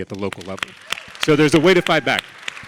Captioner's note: audience and panelists clapping